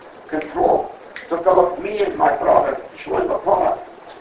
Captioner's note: Yiddish